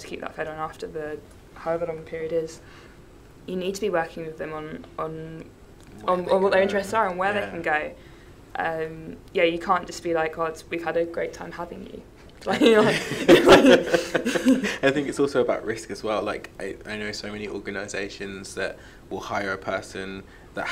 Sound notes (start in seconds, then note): 12.5 laughs